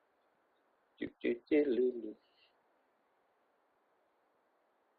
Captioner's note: humming